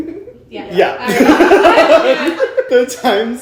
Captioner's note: all laughing